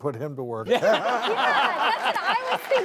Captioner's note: crowd laughing